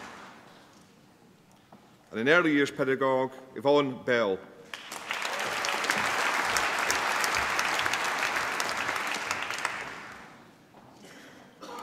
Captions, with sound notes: And in Early Years Pedagogue, Yvonne Bell. (APPLAUSE)